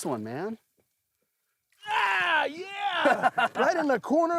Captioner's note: laughing